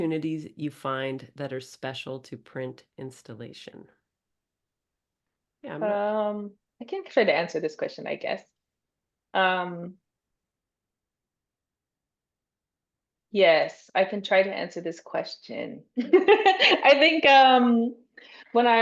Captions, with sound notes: you find that are special to print installation. Yeah I'm not- I can try to answer this question, I guess. Yes. I can try to answer this question. (laughs) I think when I-